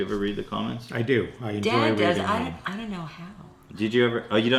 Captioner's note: laughs